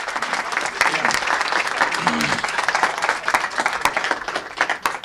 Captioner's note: applause